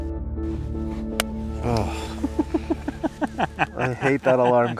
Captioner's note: laughing